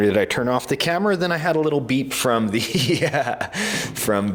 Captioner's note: laughing